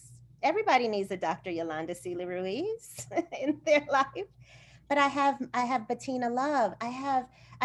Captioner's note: laughter